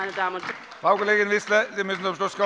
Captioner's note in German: Beifall bei der LINKEN